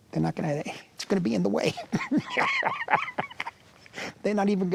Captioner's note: laughs